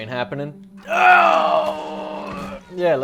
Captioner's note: groaning